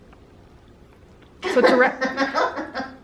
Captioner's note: laughter